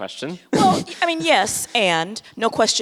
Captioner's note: laughs